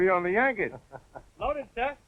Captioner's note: laughing